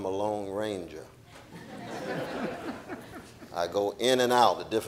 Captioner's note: audience laughing